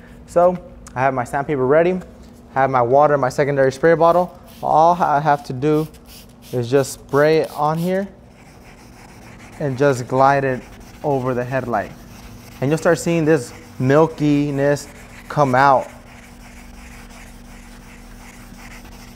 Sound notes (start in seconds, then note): 4.4 spraying water; 8.4 scratching